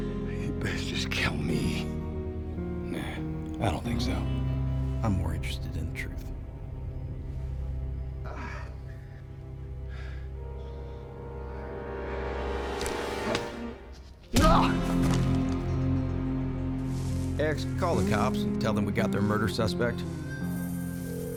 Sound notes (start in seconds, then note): 0.2 scottish accent; 8.2 breathing heavily; 14.4 punch, mr. gates groans